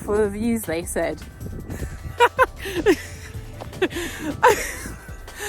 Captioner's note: laughs